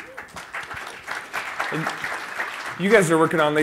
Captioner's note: applause